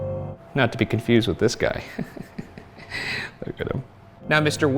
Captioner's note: chuckles